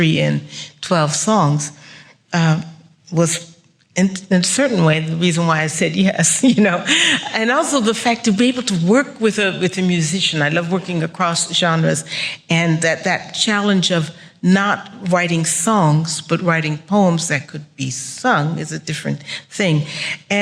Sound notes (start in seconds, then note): 6.5 laughs